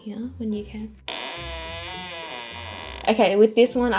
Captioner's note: creaking noise